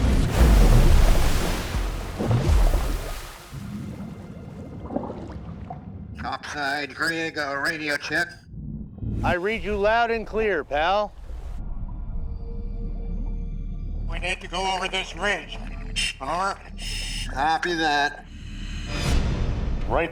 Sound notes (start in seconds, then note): 0.1 divers splash in water; 4.3 water bubbling; 5.8 speaking over radio; 13.0 radio transmission